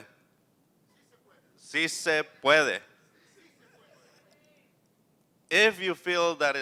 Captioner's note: non-english speech